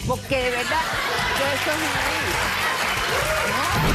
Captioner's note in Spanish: risas; aplausos